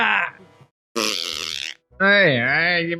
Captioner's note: fart sound